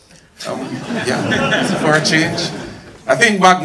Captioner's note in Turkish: kahkahalar